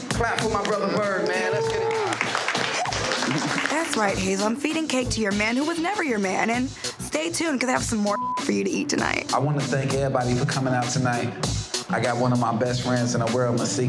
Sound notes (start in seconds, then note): 2.6 clapping; 8.0 beep